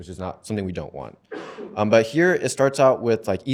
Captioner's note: cough